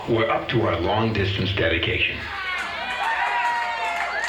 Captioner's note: audience cheering